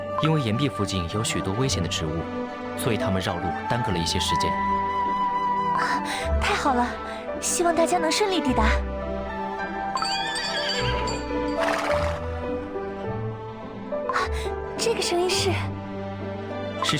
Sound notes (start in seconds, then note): 9.9 horse bells ringing